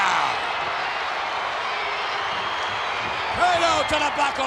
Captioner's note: crowd cheers